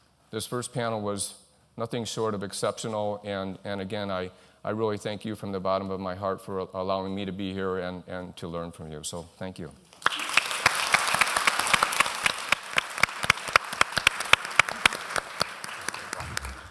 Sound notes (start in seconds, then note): 10.0 applause